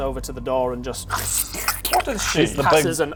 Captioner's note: squish